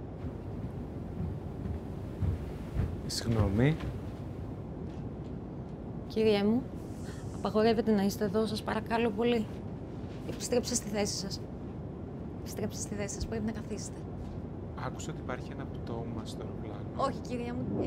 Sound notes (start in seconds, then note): 0.2 footsteps approaching; 3.3 passenger speaking foreign language; 6.1 Kaiti speaking foreign language; 14.5 Kaiti and passenger speaking in foreign language